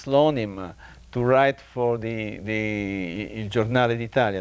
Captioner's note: speaking in a foreign language